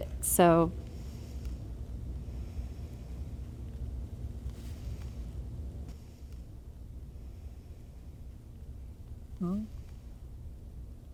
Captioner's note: deep breathing